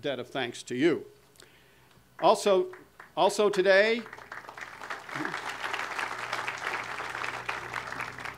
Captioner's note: audience applause